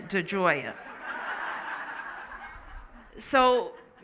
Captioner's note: laughing